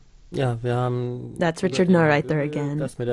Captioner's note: speaking German; speaking German